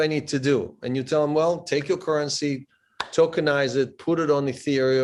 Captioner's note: claps